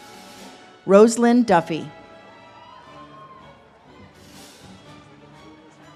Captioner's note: audience cheers